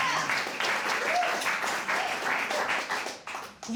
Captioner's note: audience applauding